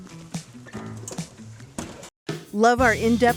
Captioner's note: pleasant music; metal clattering